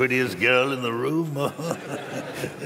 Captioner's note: chuckles